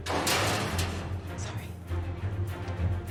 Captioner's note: metal clangs